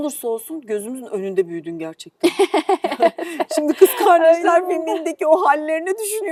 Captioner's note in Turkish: kahkaha